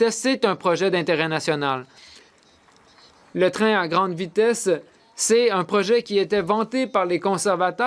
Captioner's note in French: voix de l'interprète